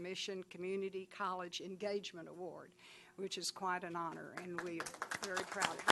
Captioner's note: applause